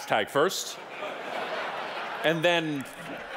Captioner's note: audience laughing